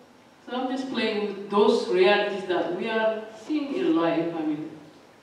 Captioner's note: none